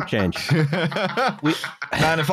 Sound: laughter

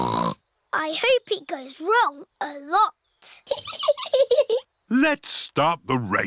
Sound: snorts; chuckles

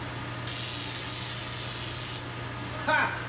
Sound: sparks zapping

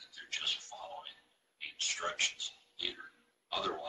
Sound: murmurs

